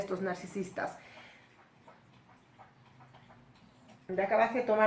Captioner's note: gulping sound of a pet drinking water